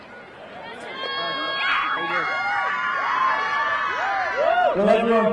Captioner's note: crowd cheering